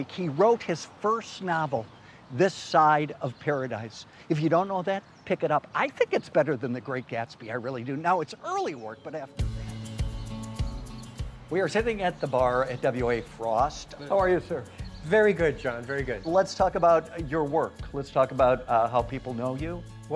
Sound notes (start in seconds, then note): 9.9 birds chirping; 9.9 lighthearted music